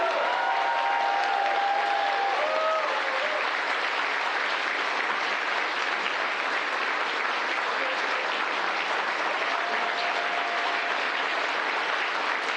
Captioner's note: applause